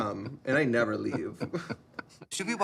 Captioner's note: chuckles